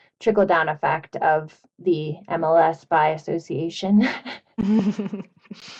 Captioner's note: chuckles